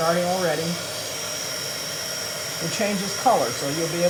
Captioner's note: heat gun whirring